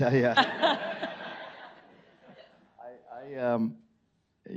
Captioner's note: audience laughing